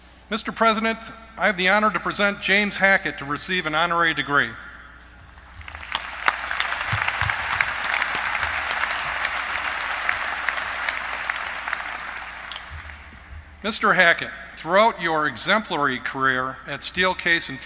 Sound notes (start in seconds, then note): 5.2 applause